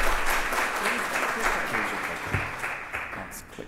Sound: applause

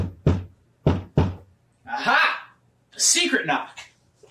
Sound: knocking

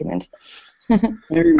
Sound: laughter

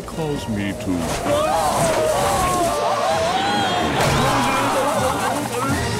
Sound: screaming

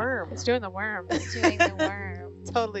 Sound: woman laughing

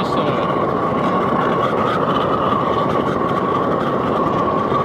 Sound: fire roaring

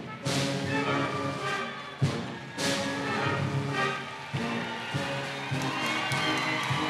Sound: bright orchestral music; audience cheering

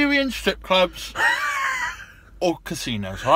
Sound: Ben wheezing

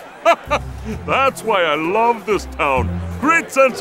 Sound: laughs

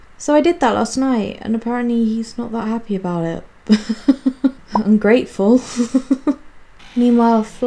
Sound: laughs

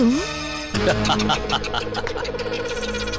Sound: laughing

